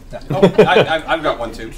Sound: all laugh

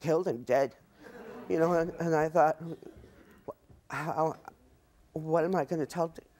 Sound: audience laughs

